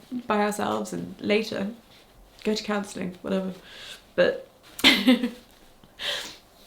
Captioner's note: chuckles